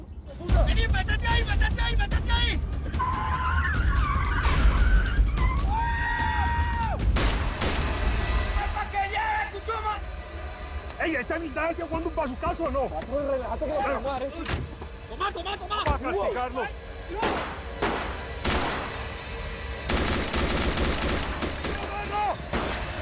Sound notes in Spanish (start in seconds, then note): 3.0 Chirrido de llantas; 7.1 Disparos; 17.2 Disparos